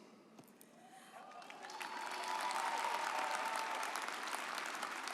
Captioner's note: audience applauds